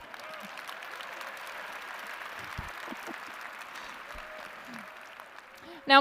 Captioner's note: applause